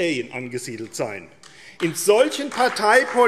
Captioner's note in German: Beifall AfD